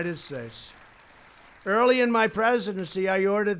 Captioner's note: applause